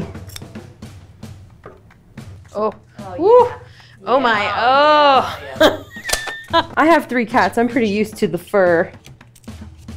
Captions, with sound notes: (percussive drum music) Oh, woo! - Oh yeah. - Oh my, oh. (laughs) - I have three cats. I'm pretty used to the fur.